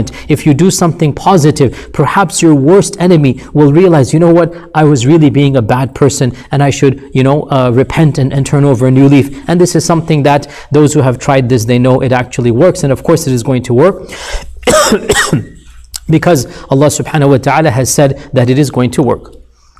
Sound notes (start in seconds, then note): 14.6 coughs